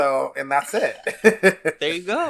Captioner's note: laughs